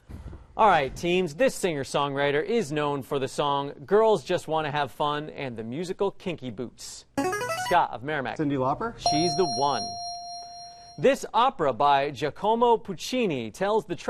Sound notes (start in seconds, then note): 6.4 player buzzer; 9.0 ding